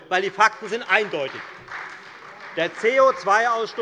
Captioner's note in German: Beifall Freie Demokraten und vereinzelt AfD